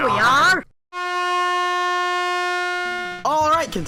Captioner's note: "Hammer" blows an airhorn, ending the challenge